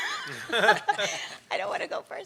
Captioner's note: laughing